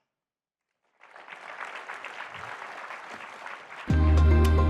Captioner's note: audience applauds; suave electronic music